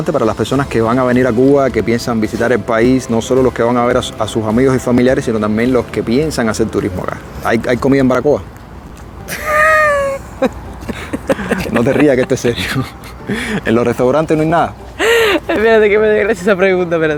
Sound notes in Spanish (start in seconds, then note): 9.3 carcajadas